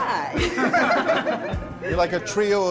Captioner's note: laughs